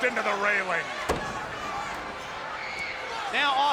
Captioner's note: wrestler thuds